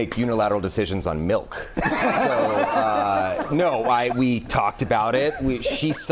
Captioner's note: laughter